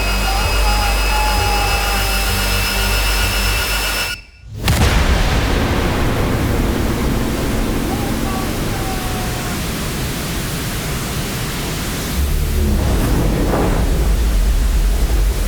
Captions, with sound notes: Oh my God! (engines whooshing) Oh my God! (engines whooshing and roaring)